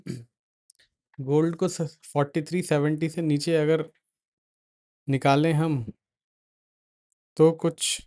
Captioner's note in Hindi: गला साफ़ करने की आवाज़